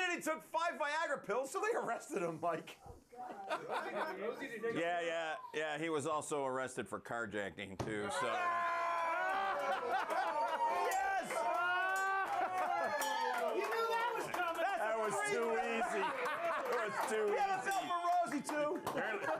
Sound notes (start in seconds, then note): 14.1 bell rings; 15.6 laughter